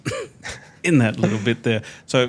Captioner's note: chuckling